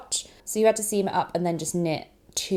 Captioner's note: none